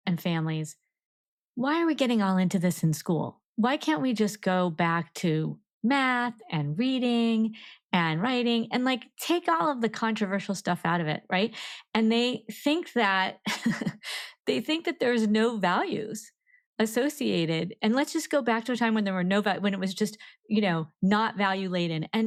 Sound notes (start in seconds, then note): 13.9 laughs